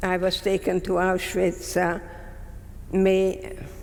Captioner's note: none